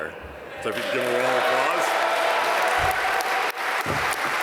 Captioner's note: applause